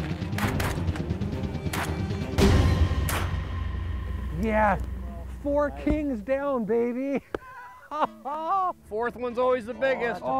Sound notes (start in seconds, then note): 0.3 gunshots; 7.1 laughs